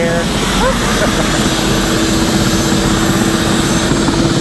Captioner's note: helicopter whirring